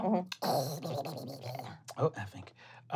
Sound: hissing

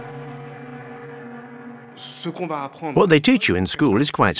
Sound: speaking in foreign language

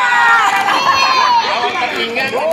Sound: clap

